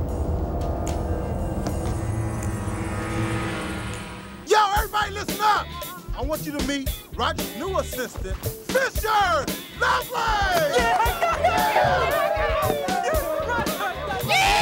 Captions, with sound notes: (dramatic music) - Yo, everybody listen up, I want you to meet Roger's new assistant, Fisher Lovelace! (crowd cheering)